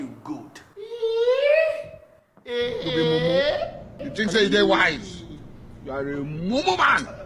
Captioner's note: confused